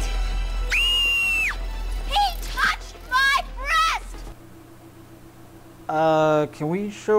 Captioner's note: girl screams